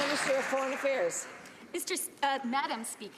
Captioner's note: some Applause